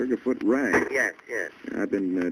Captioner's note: on phone